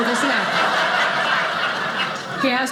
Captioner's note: audience laughing